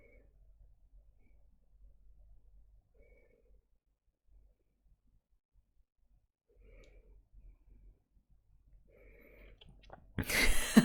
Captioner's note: laughs